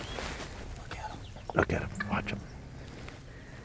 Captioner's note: whispering